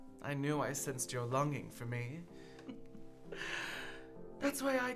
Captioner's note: chuckling